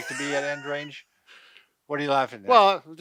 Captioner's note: laughing